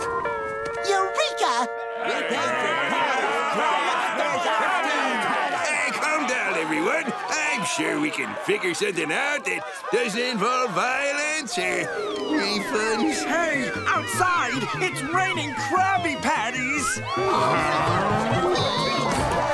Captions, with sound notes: Eureka! [rioting] Hey, calm down, everyone. I'm sure we can figure something out that doesn't involve violence or... refunds. Hey, outside! It's raining Krabby Patties! -Huh? -[clamoring]